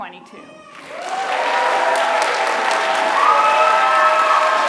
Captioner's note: applause